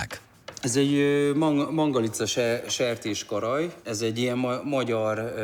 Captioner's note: speaking in foreign language